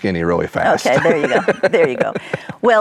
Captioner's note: laughs